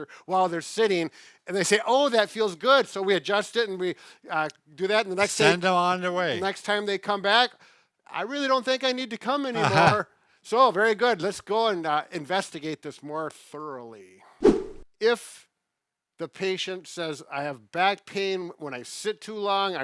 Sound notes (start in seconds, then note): 9.5 laughs; 14.4 air whooshes